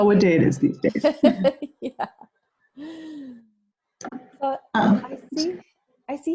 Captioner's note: laughs